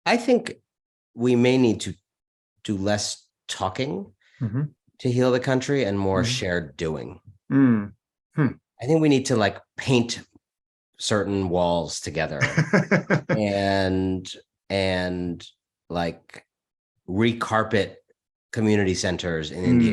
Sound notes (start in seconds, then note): 12.4 laughs